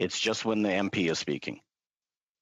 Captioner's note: speaking French